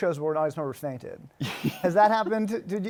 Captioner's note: laughter